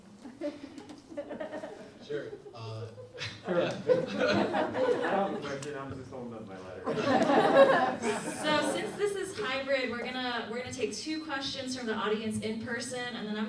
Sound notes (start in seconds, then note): 3.3 audience laughs; 3.3 laughs; 6.8 audience laughs; 6.9 laughs